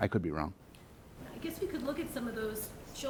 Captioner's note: voiceover